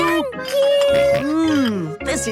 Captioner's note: snorts